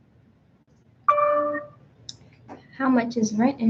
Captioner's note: computer dings